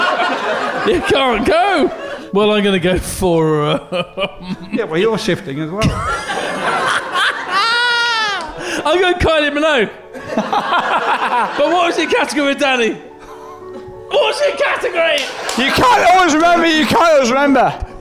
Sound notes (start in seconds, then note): 0.0 laughing; 3.5 laughing; 10.1 laughing; 15.1 clapping